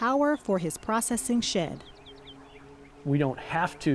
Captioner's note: wind turbine blades hum